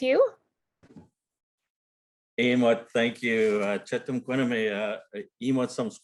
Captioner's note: speaking lik’wala